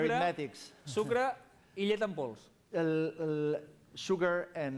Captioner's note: non-english speech